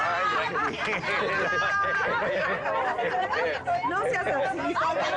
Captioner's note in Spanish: Risas y exclamaciones